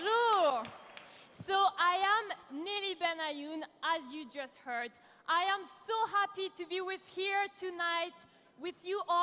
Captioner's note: applause